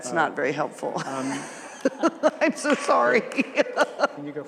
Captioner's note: laughter